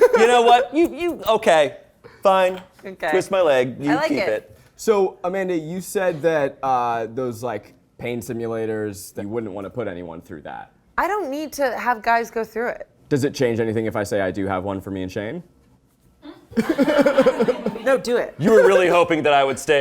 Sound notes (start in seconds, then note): 16.6 laughs